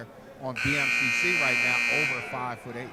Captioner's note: buzzer sounding